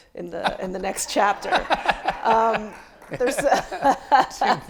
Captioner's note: laughs; audience applauding